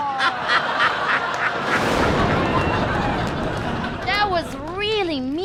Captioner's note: evil laughter